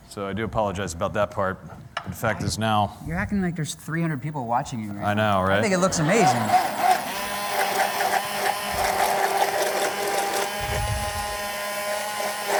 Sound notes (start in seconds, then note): 7.5 grinding